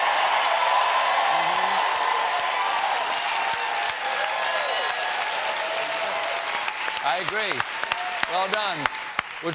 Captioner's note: cheers and applause